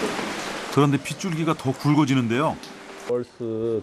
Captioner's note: raindrops suddenly getting thicker